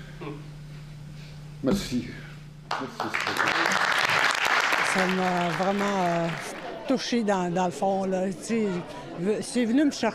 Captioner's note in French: applaudissements